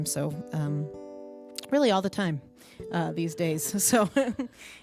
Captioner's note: chuckles